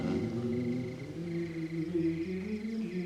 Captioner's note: hums